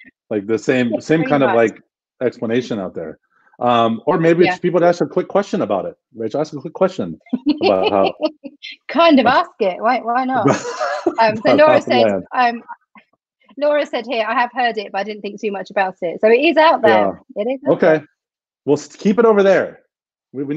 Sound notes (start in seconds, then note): 7.3 laughs; 10.4 laughs